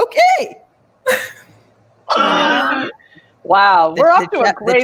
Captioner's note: laughs